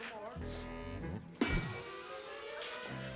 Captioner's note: sniffs